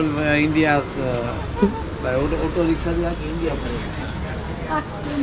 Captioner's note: indian man speaks local language